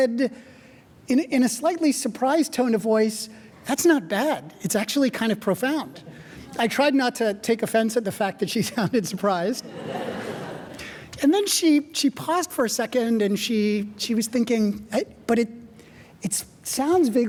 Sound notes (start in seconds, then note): 9.5 audience laughing; 9.6 chuckling